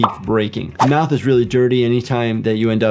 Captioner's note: screen whooshing